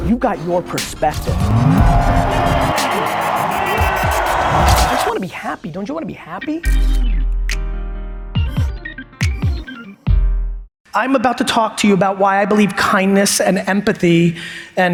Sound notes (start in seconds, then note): 0.8 crowd cheers